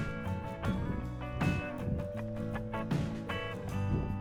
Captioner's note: wind Blowing